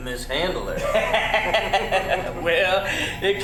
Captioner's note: evil laughter